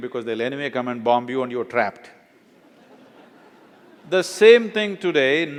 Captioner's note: laughter